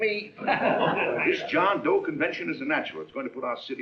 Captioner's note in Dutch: lachen